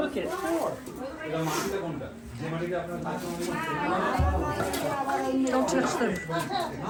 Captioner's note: people chattering in foreign language